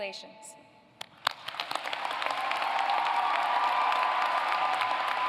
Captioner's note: applause, cheering